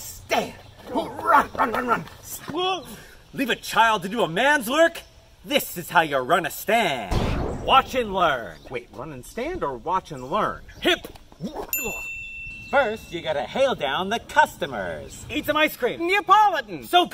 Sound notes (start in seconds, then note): 7.1 poof!; 11.7 ding